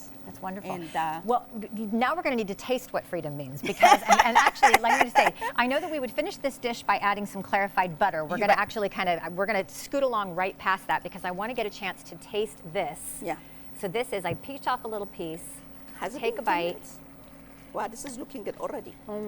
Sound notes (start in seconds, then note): 3.6 laughs